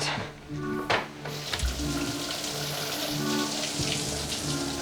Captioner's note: water running